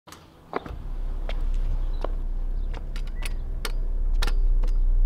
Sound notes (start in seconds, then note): 0.0 scooter wheels on ground; 0.3 deep rumbling music